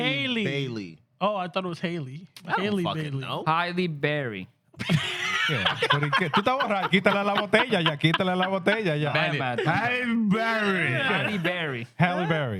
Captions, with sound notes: Oh, I thought it was Halle Berry. Halle Berry. Yeah. (Speaking Spanish) Halle Berry. Halle Berry.